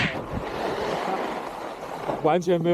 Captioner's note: sound of riding